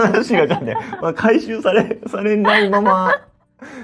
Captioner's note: laughs